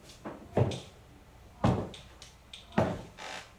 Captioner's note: boots stomping